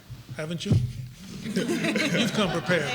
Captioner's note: laughter